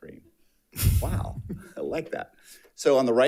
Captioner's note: board Members laughs